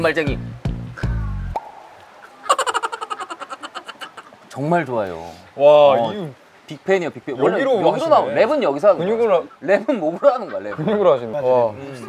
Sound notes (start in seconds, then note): 1.5 drumbeats; 2.4 laughing